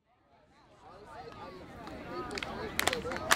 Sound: chatting; clapping

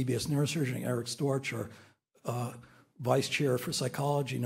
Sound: none

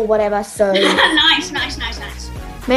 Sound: laughs

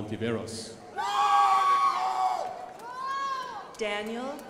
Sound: crowd applauding

